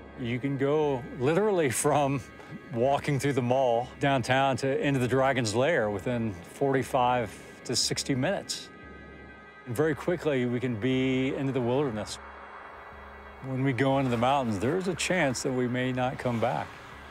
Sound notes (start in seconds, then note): 9.1 helicopter whirring